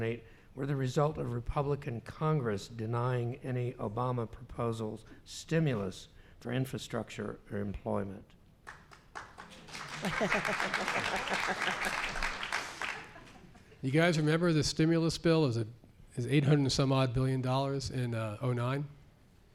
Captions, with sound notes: were the result of Republican Congress denying any Obama proposals stimulus for infrastructure or employment? [applause] You guys remember the stimulus bill is 800 and some odd billion dollars in '09?